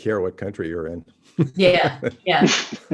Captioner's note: laughs